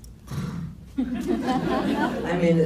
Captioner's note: blows into the mic; laughs